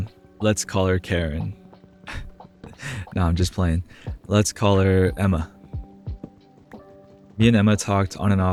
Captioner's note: laugh